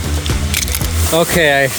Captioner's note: crunch